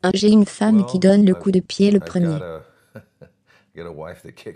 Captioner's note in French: rires